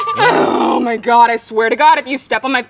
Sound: grunting; laughing

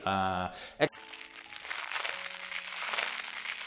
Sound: crackling

